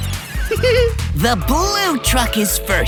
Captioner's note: giggling